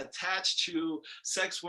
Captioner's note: none